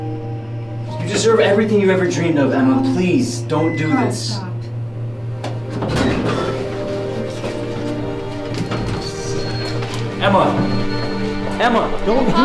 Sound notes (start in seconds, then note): 5.7 elevator door opens